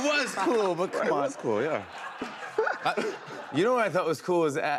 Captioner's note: laughter